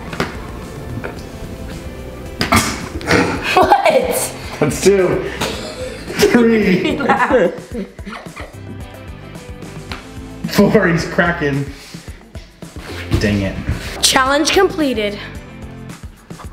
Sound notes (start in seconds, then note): 6.8 laughs